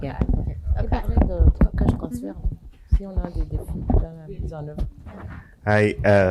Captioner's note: speaking french